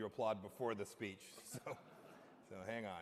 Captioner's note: laughter